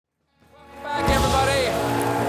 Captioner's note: cheers and applause